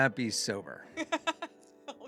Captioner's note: laughing